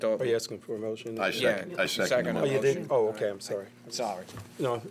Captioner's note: chatter